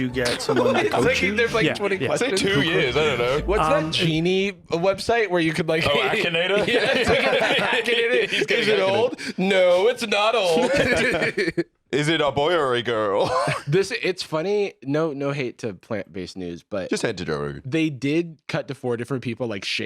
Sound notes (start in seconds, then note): 10.5 laughs